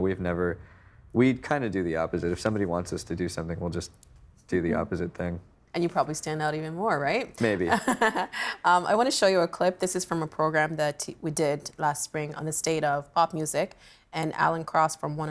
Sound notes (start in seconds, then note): 7.4 chuckling